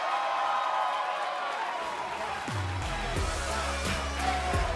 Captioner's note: cheers & applause